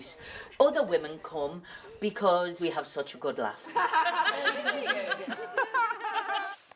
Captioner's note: laughter